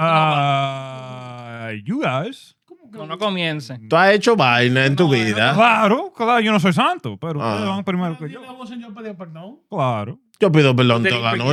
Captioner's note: speaking In Foreign Language